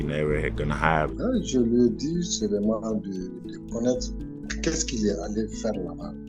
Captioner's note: speaking in French